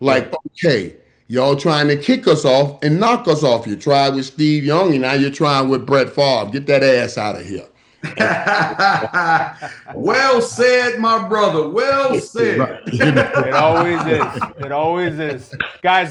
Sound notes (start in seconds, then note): 8.0 laughs